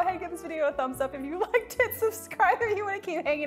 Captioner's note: laughing